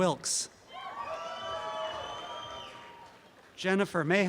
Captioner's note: audience cheering